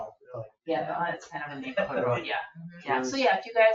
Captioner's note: people chatter